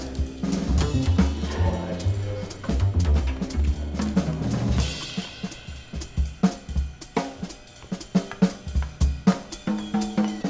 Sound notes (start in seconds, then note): 1.9 elevator door dings